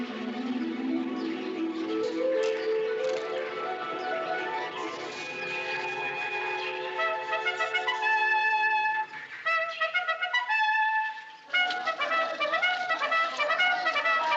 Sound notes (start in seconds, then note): 7.0 horn Blowing; 11.6 shouting In Native Language